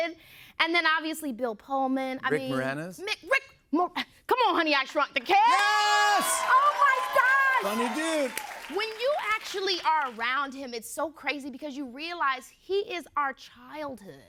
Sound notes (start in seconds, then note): 7.9 cheers and applause